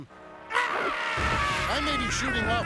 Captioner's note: crying